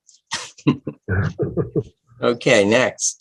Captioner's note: laughter